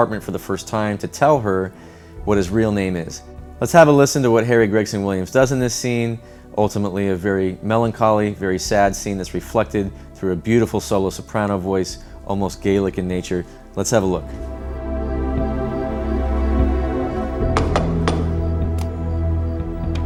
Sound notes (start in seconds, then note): 17.5 knocks